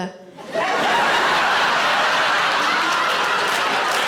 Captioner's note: audience laughing